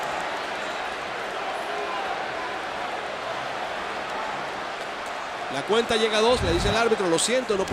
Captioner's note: applause